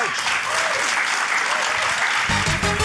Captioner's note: cheering, applause